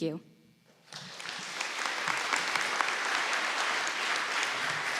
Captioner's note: audience applauding